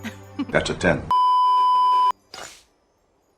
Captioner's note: beeeeeeeeeeeep